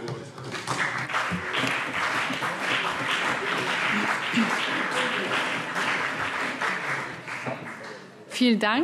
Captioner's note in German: Beifall CDU und BÜNDNIS 90/DIE GRÜNEN